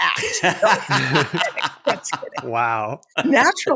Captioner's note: laughter